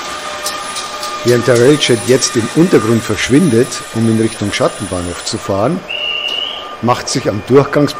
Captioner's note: conductor whistle